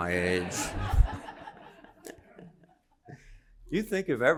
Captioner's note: laughter